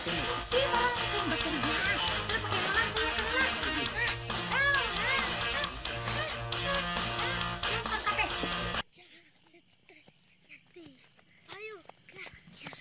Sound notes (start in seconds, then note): 4.6 Ising continues humming